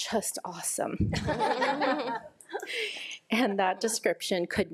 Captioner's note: audience laughs